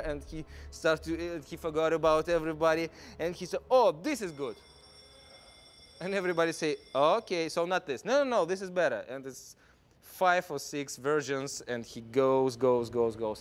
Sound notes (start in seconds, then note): none